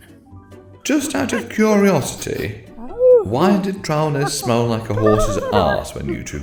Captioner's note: ape noises